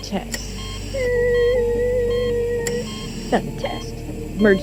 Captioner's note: Blue imitates electronic alert